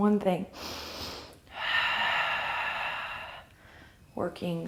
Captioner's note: deep breath